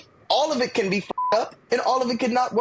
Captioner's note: beep